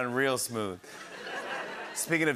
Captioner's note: laughter